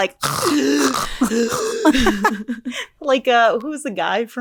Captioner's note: snorting